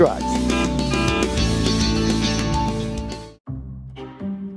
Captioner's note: horn honking